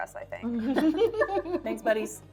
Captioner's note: laughing